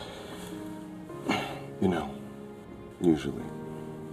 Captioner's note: sighing